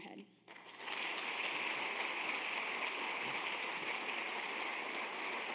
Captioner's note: audience applauds